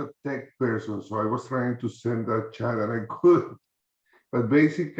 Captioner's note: chuckles